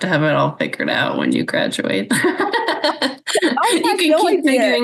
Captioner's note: laughs